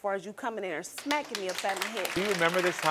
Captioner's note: audience applauding